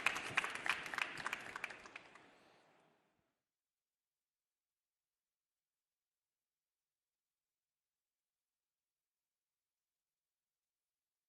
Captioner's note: applause